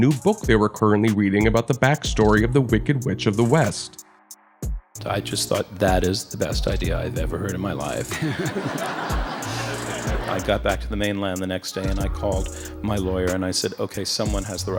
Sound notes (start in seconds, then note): 8.0 laughs